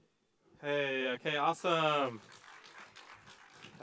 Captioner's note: applause